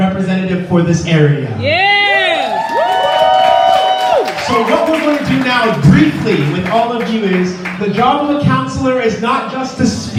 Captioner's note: audience: yeah! applause